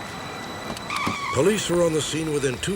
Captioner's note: screeching tires